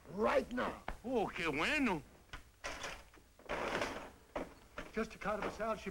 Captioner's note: non-english speech